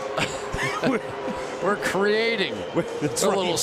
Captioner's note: laughter